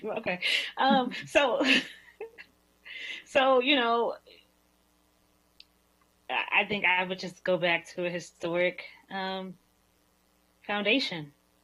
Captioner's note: laughter